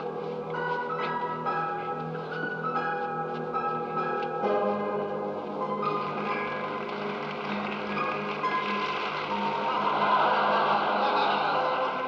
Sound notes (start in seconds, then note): 6.0 applause; 9.6 laughter